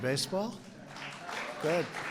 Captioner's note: applause